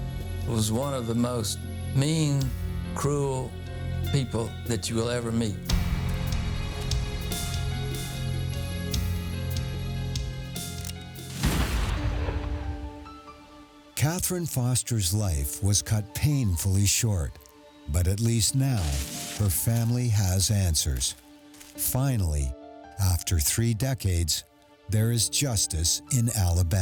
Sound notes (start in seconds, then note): 6.0 tense music; 11.4 gunshot booming